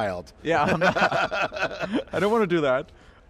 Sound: group laughing

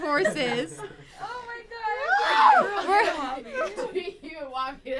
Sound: laughing

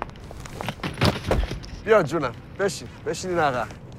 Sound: speaking foreign language

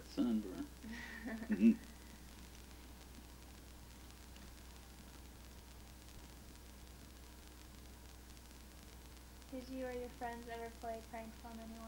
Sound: both chuckle

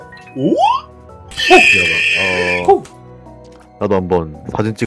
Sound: horse noises

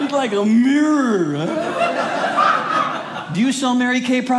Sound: audience laughing

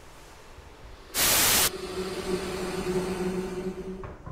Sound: TV static

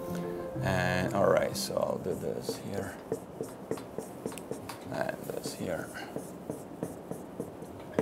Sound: sound of marker on whiteboard

